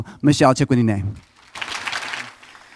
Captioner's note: applause